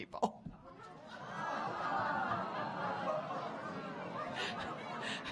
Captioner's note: audience groaning